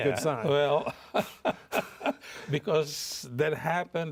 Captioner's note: chuckles